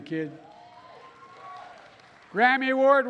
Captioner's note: applause